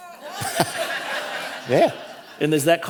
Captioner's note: audience laughing